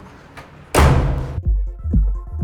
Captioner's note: door closed